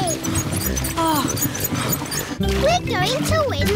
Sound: groans

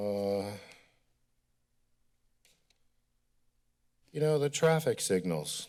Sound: silence

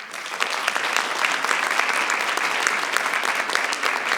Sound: audience applauding

